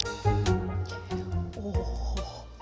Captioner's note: shivering